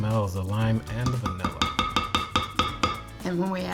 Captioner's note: utensil tapping